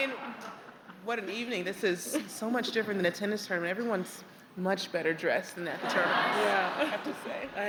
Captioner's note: laughter